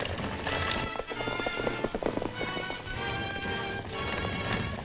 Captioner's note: horses galloping